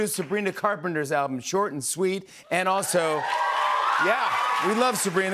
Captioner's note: cheers and applause